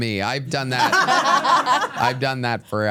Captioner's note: everyone laughs